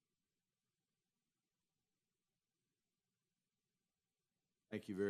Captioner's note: moment of silence